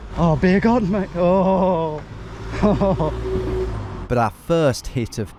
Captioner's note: chuckles